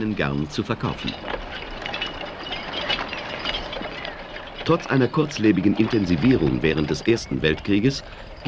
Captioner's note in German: Arbeitsgeräusche